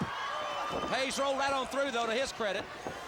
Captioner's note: crowd cheering